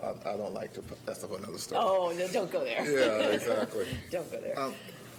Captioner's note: laughter